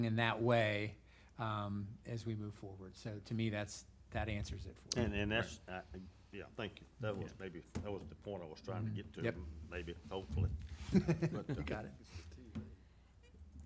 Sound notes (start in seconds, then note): 10.8 laughs